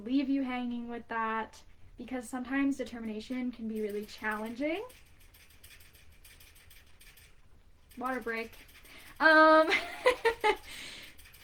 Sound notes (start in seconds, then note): 7.9 A pet rat drinks from a water bottle loudly... Tktktktktktktk